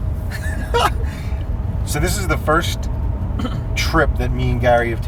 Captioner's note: laughs